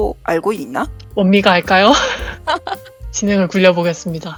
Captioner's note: laugh